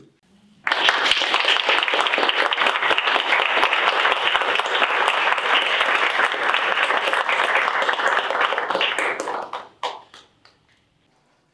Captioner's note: applause